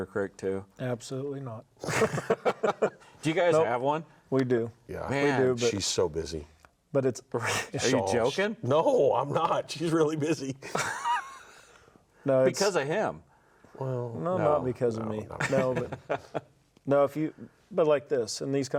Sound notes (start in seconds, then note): 1.8 everyone laughs; 10.6 laughs